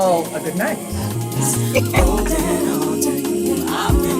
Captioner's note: laughs